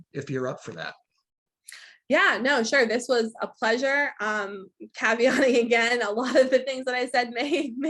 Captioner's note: laughing